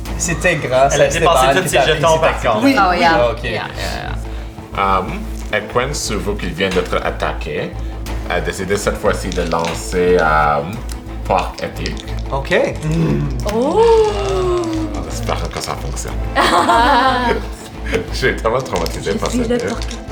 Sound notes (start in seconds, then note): 16.3 laughs